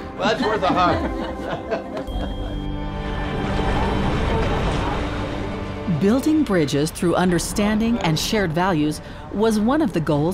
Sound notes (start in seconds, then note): 0.1 laughs; 3.1 water splashing